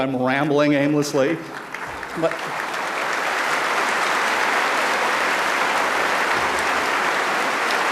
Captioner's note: applause